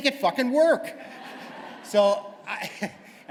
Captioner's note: laughter